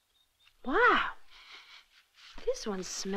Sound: sniffing

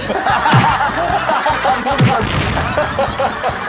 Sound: punch

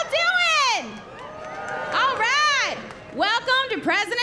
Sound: cheering

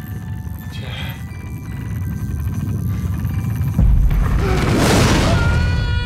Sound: gasps; Jack screaming

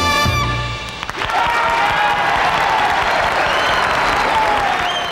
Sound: audience cheering

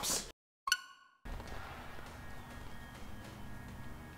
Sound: game beeps

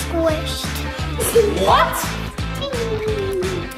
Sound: mom laughs

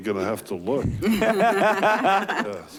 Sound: laughing

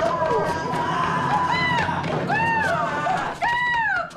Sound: boys shout; screeches

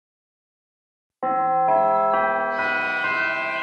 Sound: bell chimes

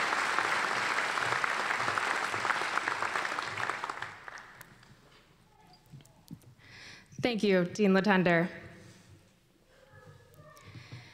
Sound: applause

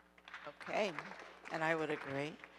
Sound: audience applauding

